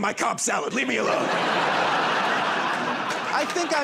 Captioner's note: laughter and applause